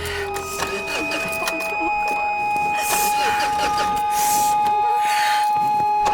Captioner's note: car failing to start; ominous music